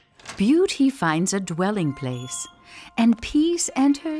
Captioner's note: voice-over